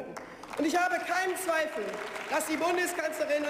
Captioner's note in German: Beifall